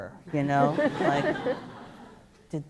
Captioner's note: laughter